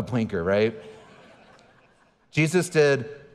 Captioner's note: audience chuckling